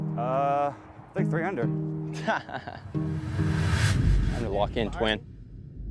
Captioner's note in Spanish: se ríe